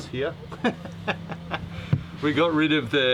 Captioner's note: laughs